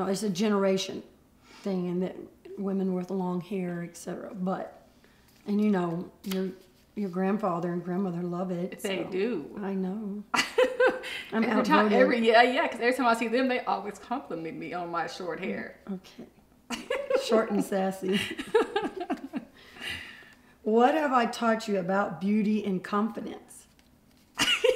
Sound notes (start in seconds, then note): 10.4 laughs; 18.0 laughs; 18.0 laughter